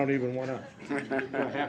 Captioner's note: laughter